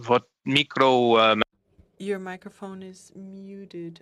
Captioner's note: speaking French